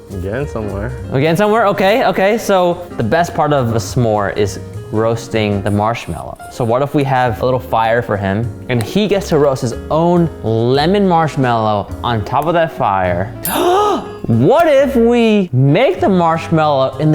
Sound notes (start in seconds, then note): 13.4 gasps